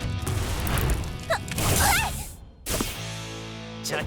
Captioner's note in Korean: 니아의 신음 소리